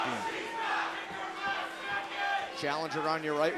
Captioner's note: bell ringing; crowd cheering